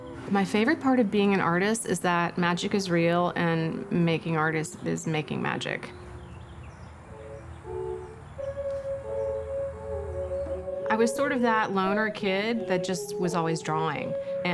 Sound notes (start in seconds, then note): 6.3 birds singing; 7.0 ambient music continues